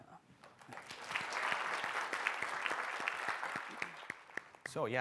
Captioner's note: audience clapping